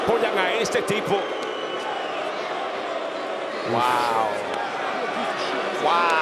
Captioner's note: applause